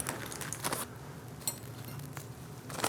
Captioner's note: soft clinking and rustling